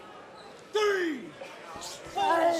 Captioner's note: crowd chatter